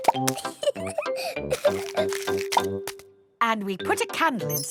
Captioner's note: laughing